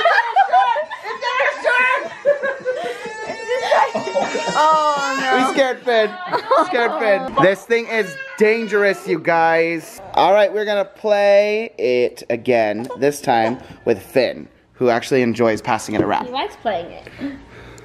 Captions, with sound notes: - Oh, it's in her shirt! (baby cries) - Oh no. - We scared Finn, scared Finn. This thing is dangerous you guys. Alright, we're going to pay it again. This time with Finn who actually enjoys passing it around. - He likes playing it.